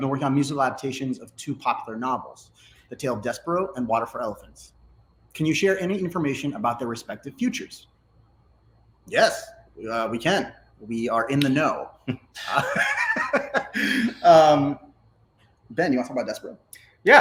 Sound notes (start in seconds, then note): 12.1 laughs